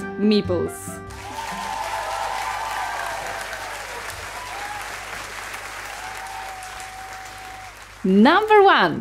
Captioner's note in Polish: oklaski